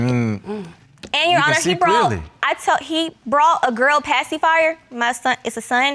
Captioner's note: stammering